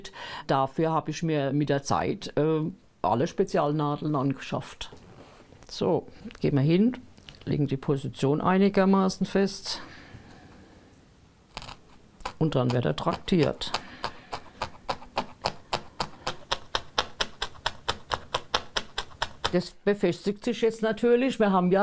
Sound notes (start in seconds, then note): 13.0 whetting, knocking